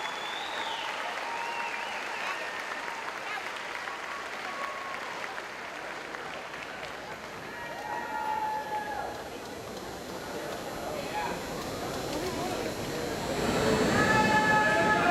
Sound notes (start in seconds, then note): 7.5 audience cheering